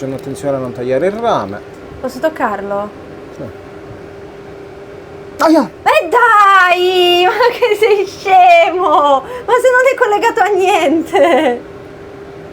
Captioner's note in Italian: risate